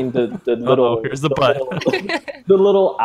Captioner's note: laughs